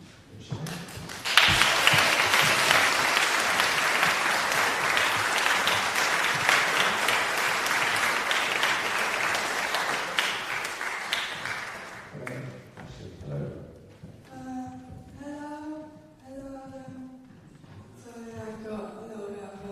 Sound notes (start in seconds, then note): 0.6 applause